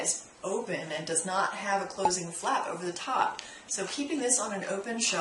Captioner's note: pop